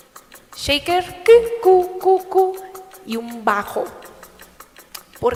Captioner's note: click noise